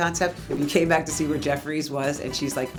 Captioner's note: air whooshing